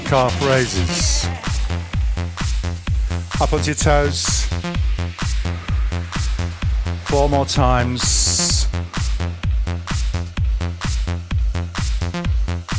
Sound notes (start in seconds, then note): 8.7 breathing